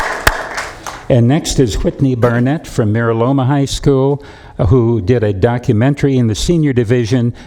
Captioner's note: applause